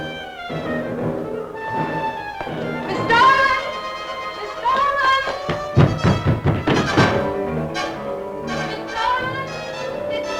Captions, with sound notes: - Miss Starlin! Miss Starlin! (knocking) Miss Starlin,